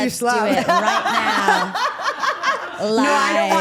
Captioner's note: Steph laughs